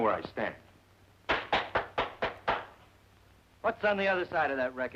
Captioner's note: Bronc clapping